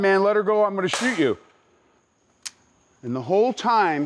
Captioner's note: fake gunshot